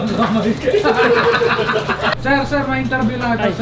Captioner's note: laughter